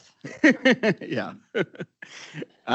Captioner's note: laughing